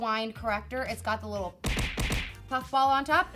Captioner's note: punch whacking